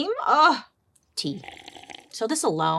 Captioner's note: person slurping